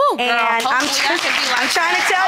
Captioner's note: audience applauding